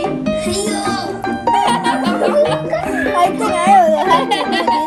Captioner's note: kids cheering